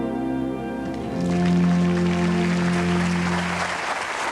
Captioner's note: audience applause